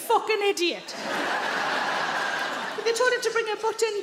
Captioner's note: audience laughing